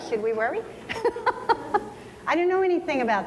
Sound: laughing

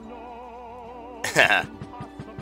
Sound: laughs

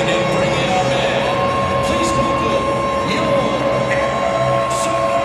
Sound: crowd cheering

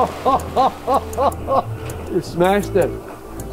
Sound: laughs

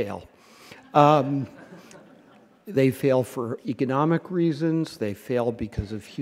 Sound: laughter

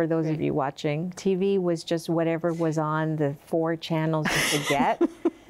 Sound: laughing

